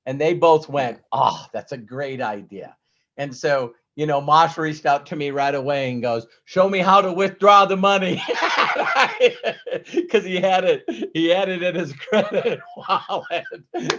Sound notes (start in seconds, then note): 8.2 laughs